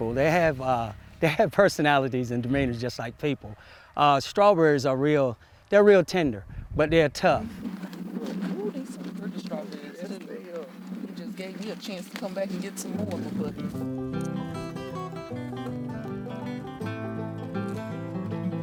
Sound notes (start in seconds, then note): 9.7 murmurs; 9.9 instrumental music